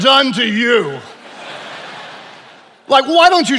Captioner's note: attendees laughing